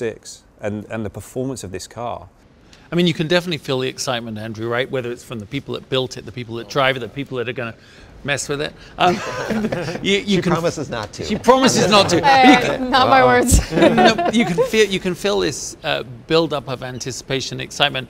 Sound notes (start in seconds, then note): 11.2 laughing